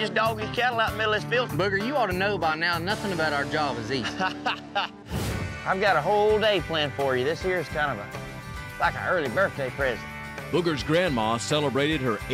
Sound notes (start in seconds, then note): 4.0 laughs